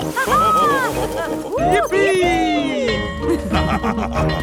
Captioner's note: both laughing; school bell ringing